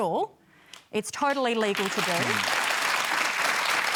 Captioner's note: applause